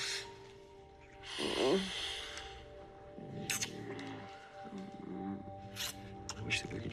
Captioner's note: moans